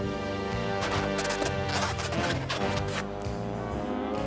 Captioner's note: squeaking continues